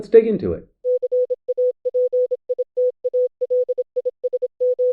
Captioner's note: machine beeping